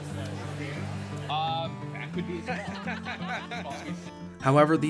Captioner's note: people chattering